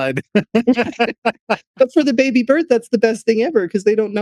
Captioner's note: laughing